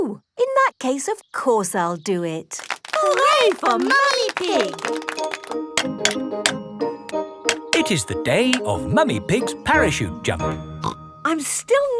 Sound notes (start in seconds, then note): 7.5 clanking